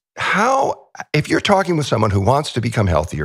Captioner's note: laughs